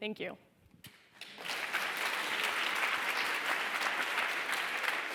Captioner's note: applause